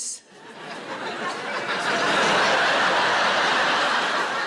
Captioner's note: audience laughing